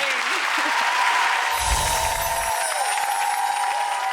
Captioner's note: crowd cheers